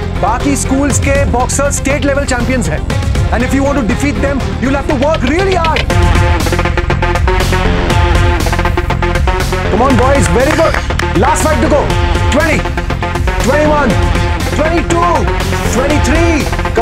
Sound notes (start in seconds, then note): 9.9 Clapping